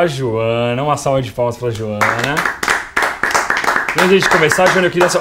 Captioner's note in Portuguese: palmas